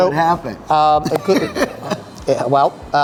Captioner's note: laughs